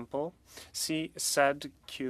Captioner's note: speaking French